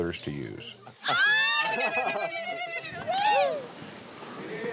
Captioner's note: women ululating